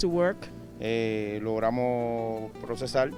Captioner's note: speaking Spanish